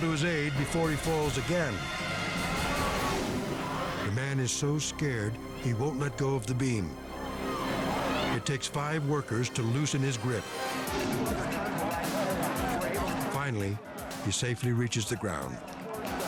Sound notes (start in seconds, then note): 10.9 crowd chatters